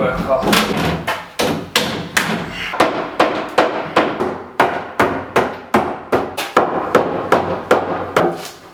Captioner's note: banging